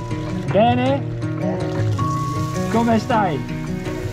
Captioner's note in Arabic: يتحدث بالهولندية